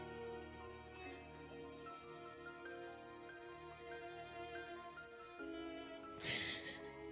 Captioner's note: crying